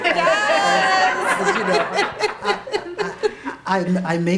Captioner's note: laughter